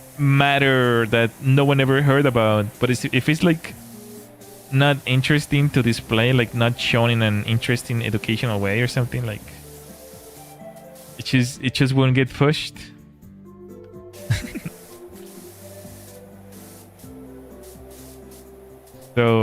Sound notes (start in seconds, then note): 14.2 laughter